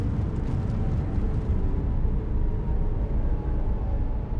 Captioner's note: wind howling